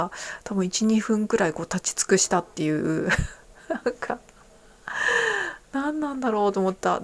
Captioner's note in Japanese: 笑い